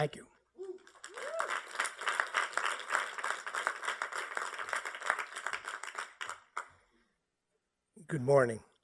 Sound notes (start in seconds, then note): 0.8 applause